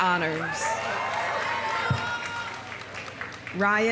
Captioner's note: audience cheering; audience applauding